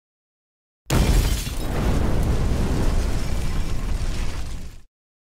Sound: explosion blasts

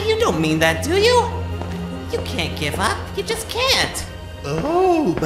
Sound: footsteps on stone

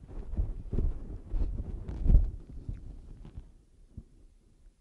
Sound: microphone noise

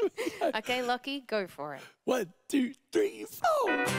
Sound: laughter

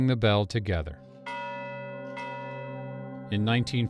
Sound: bell ringing

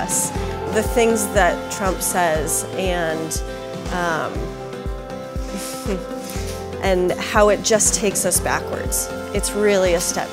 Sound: sighs

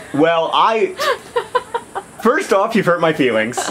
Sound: laughs

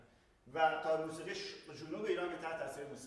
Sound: speaking in farsi

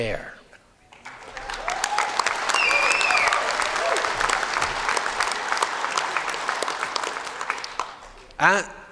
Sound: applause

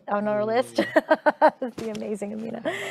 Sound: chuckling

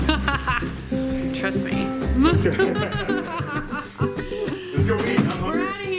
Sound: laughing

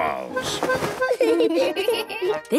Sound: giggling

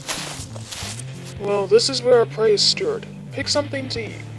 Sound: talking

